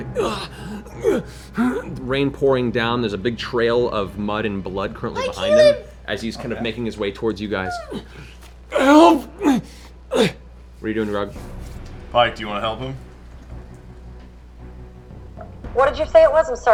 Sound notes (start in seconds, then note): 0.0 gasping, grunting; 9.4 gasp